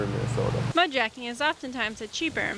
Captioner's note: voiceover